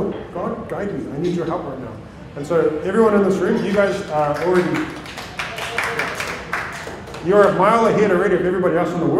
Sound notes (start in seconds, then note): 3.6 applause